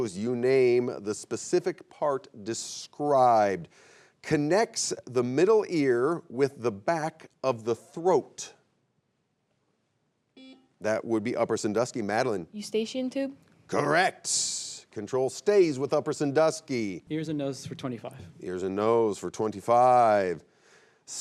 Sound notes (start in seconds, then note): 10.4 buzzer beeps